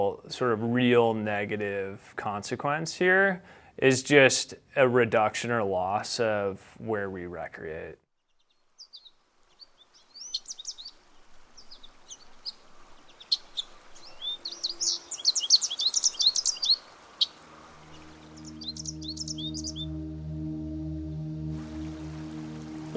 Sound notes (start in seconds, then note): 8.4 birdsong